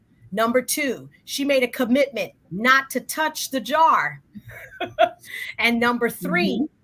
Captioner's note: laughs